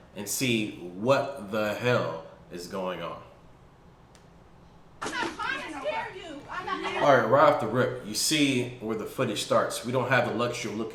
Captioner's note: video playing. Commotion